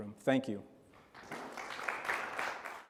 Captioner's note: audience applause